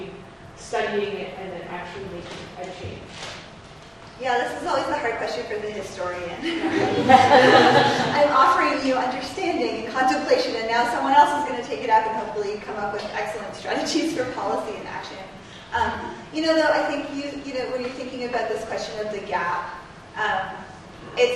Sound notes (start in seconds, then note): 6.4 audience laughs